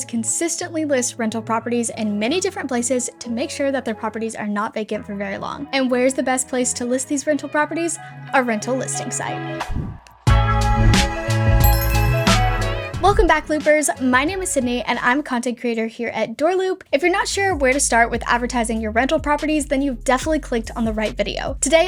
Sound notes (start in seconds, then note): 10.1 light upbeat music; 11.6 bells dinging